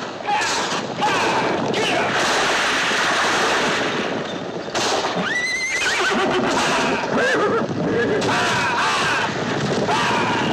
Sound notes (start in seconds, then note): 5.2 horse whinnying